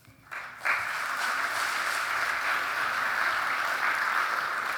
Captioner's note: audience applauding